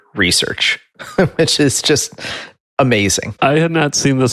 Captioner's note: giggles